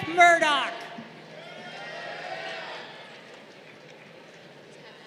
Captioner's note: crowd cheering